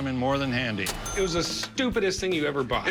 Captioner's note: cash register dings